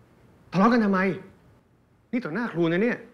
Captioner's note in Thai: none